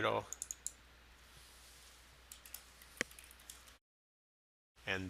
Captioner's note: sound of typing